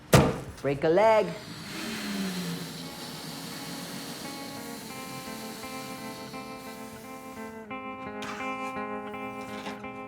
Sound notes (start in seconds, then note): 1.2 X smooching; 3.6 air hissing; 6.1 gentle guitar music